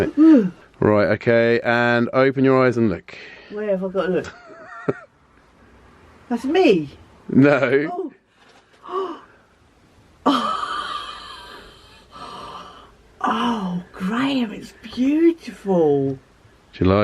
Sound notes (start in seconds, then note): 0.1 mum gasps; 4.3 laughing; 7.7 laughing; 10.3 gasps